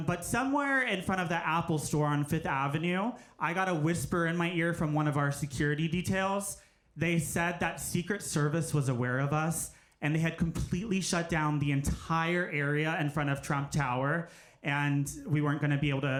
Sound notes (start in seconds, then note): none